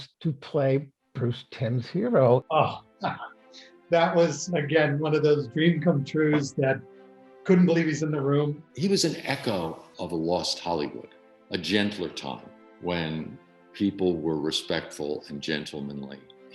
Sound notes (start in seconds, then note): 3.9 laughs